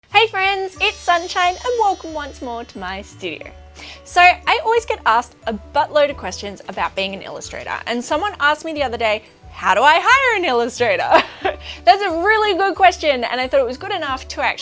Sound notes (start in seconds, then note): 11.3 chuckles